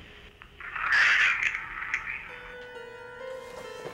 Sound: static

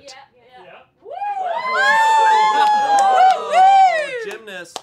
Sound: all cheer

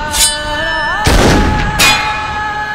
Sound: gunshot

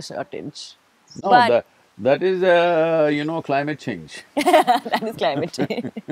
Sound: both laugh

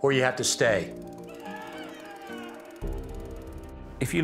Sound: screams

